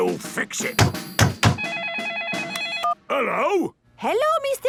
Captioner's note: phone ringing